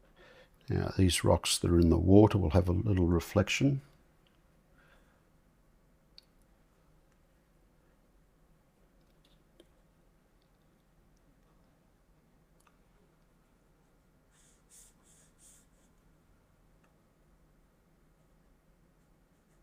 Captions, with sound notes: Now these rocks that are in the water will have a little reflection. [silence]